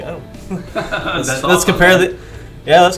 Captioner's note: laughing